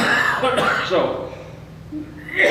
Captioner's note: coughs